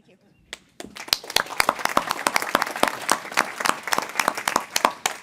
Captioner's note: audience applauding